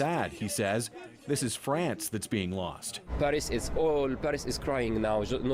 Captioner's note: speaking French